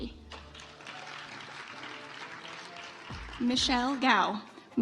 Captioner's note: audience applauds